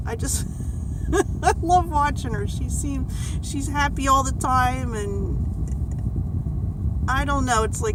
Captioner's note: laughs